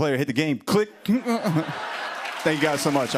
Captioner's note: laughter